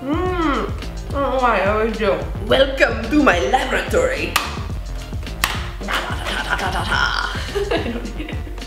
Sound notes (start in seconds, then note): 5.3 rubber snaps; 5.8 laughs